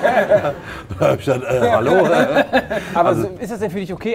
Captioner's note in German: Amüsiertes Lachen